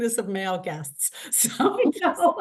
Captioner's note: laughter